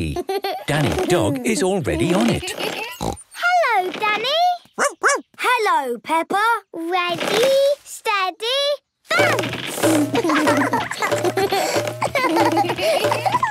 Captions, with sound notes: Danny Dog is already on it. (snorts) - Hello Danny! (barks) - Hello Peppa! - Ready, steady, bounce! (both laugh)